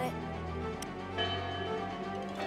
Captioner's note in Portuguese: campainha soando